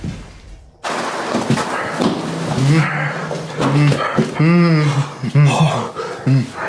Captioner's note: plastic tarp rustles; victim moaning